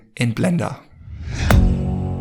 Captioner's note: air whooshes; intense music